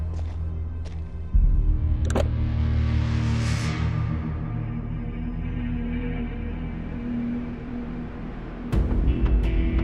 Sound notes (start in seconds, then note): 2.3 car door clicks; 6.4 slow music continues